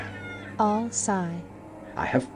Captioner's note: all sigh